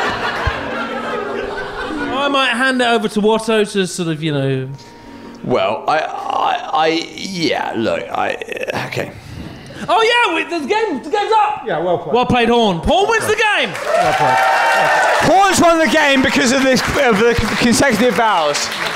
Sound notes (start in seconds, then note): 13.3 applause and cheering